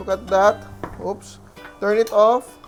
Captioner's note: knock